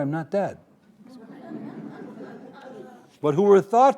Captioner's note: audience laughing